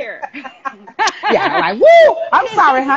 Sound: laughing

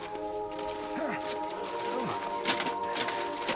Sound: grunting

